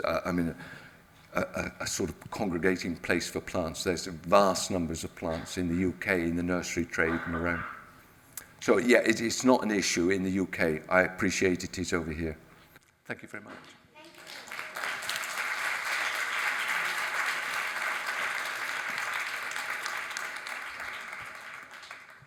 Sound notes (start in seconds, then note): 14.0 audience applauds